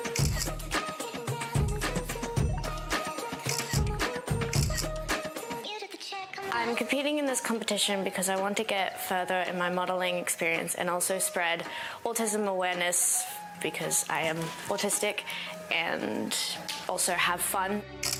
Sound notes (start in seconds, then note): 0.0 camera clicking; 18.0 camera clicking